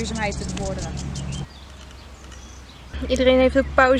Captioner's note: nature sounds